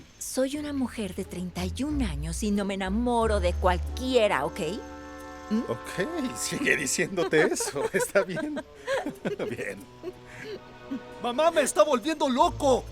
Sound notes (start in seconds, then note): 6.6 Esperanza ríe